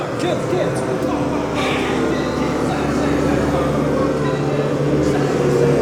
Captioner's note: Kinard continues repeating